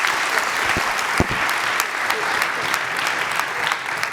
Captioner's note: applause